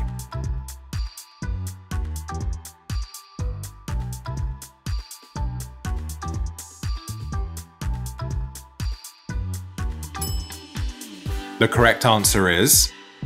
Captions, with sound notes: (upbeat music) (bell clinking) The correct answer is...